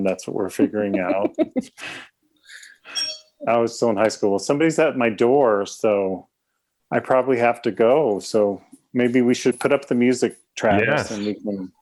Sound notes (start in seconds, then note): 0.6 laughs; 3.0 door bell rings